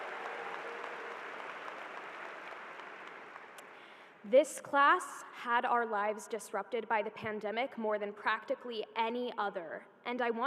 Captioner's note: applause